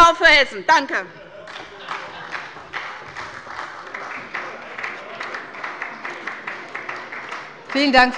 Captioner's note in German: Beifall bei der SPD